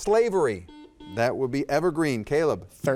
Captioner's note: buzzer dings